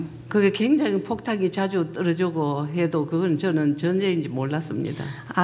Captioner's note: speaking foreign language